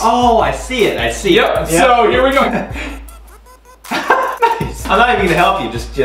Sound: laughing

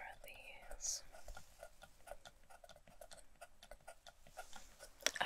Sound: scratching

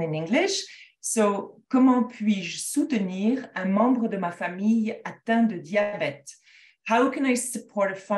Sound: speaking in French

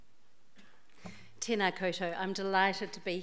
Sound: speaks in foreign language

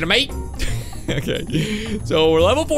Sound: chuckle

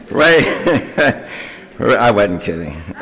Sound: laughter

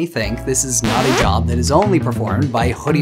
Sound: record scratching

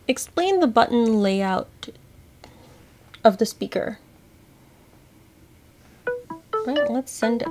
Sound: Seeing AI Chime

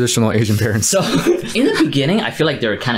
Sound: laughs

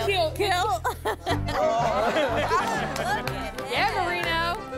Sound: laughter

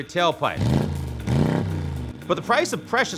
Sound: engine roaring

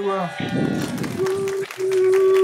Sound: applause

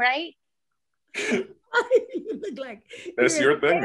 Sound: laughs

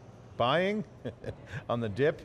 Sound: chuckles

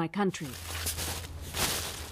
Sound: speaking Foreign Language

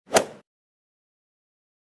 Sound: swoosh

